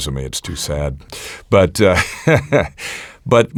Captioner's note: laughs